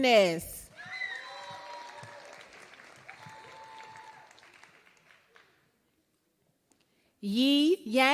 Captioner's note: applause